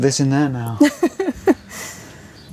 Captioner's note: laughing